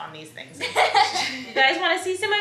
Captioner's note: laughs